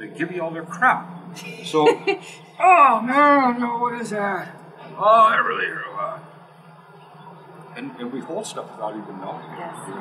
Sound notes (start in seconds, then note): 2.1 laugh